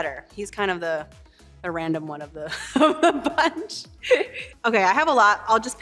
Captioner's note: laughs